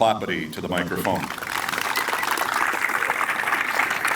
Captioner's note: applause